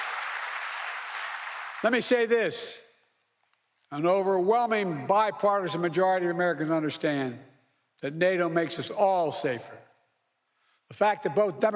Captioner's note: applause